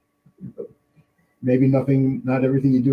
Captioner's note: laughing